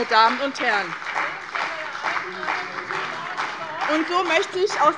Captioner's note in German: Beifall bei dem BÜNDNIS 90/DIE GRÜNEN und der CDU